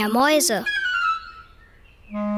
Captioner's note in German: Helles Trillern